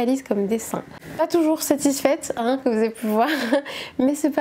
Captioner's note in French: rires